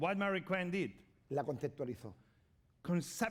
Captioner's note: speaking spanish